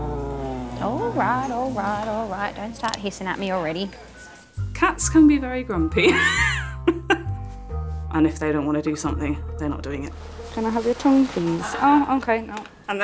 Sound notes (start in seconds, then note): 6.5 laughing